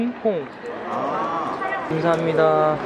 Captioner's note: talking to staff in Korean; ahHHh